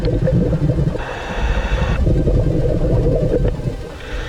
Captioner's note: heavy breathing; water gurgling